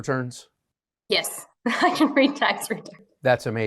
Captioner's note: laughing